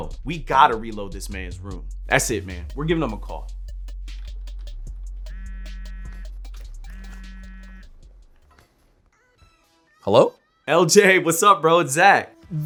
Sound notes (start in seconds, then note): 5.2 phone vibrating